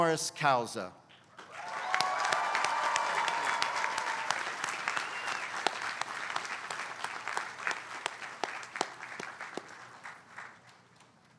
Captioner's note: applause